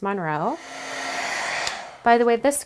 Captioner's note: heat gun whirring